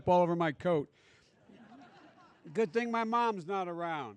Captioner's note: laughter